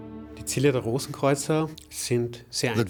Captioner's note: speaking in German